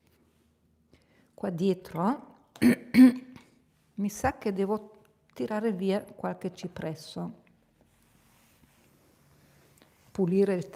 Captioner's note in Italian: tosse; schiarire la voce